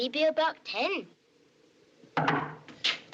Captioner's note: knock At Door